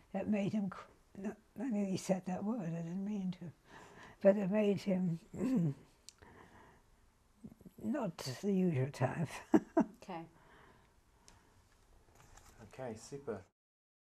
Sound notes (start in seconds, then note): 5.6 pauses for 3 seconds; 9.5 laughs